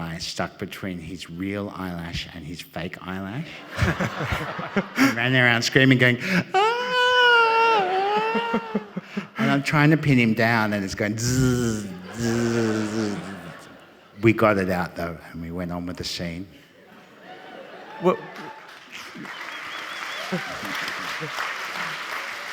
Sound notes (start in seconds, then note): 11.2 mimicking a blowfly; 17.8 audience cheering and applauding